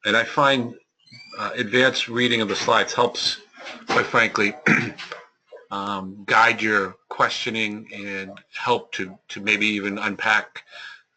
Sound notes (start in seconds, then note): 4.4 cough